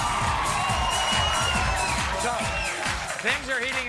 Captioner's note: audience cheering and applauding